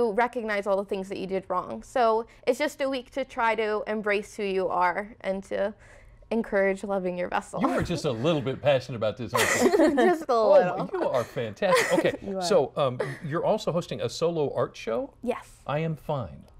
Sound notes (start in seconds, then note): 9.2 laughter